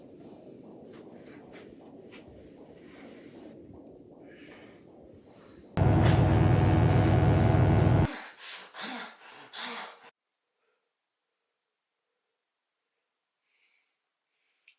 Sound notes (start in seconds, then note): 0.0 heart beating; 5.8 electric buzzing; 6.1 Phil panting